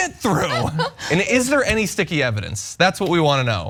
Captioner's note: laugh